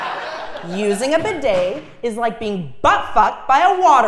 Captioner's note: laugh